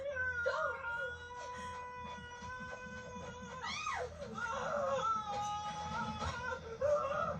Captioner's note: screaming and gets out of the tunnel in shock